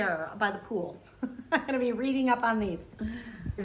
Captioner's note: giggles